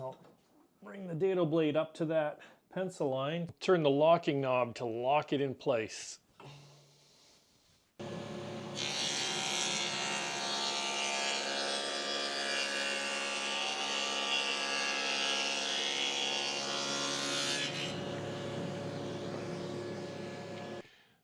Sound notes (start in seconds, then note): 8.0 sawing